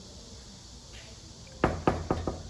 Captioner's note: knocks on the door